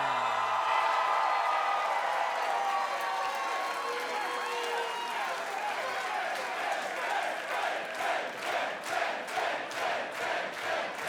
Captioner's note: applause